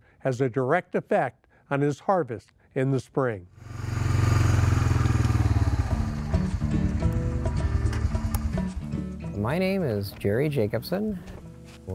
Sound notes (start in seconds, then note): 3.6 purring of the engine